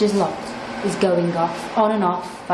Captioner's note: hand dryer roaring